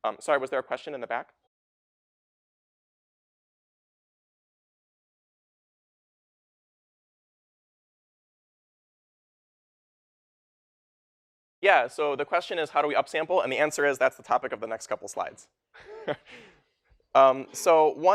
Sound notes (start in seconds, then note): 15.7 웃음